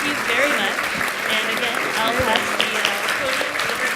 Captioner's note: applause